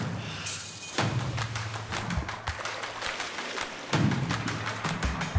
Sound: drums pound; hands clap rhythmically

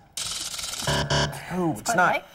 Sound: buzzer

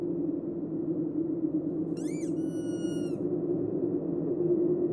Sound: muffled wind; dog squeaky toy squeaking

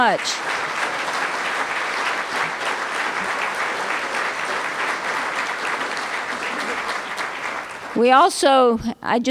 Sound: applause

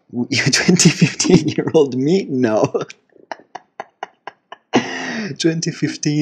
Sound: confused laugh of someone who just found out he's 2015 years old

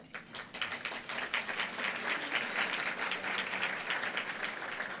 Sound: applause

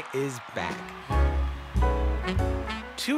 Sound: cheers and Applause

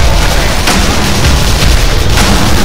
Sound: explosion

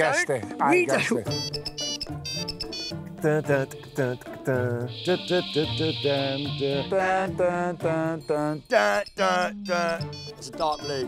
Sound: hums kick ringtone

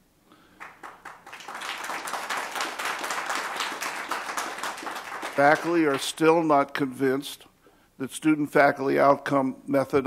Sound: applause

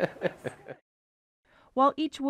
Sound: laughing

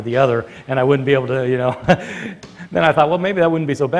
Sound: chuckles

